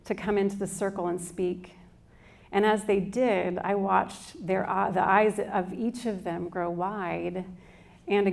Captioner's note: none